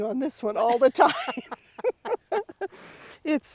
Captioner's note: both laughing